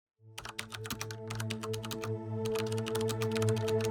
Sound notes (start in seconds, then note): 0.3 typing Sounds; 0.5 tense Music